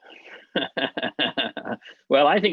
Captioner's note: laughing